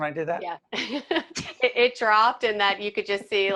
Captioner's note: laughing